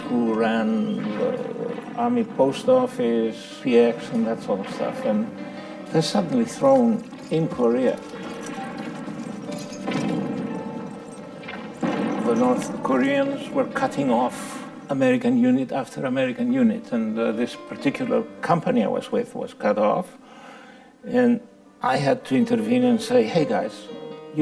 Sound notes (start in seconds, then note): 8.5 explosion blasting; 8.5 soft music